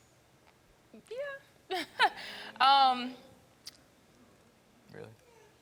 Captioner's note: chuckles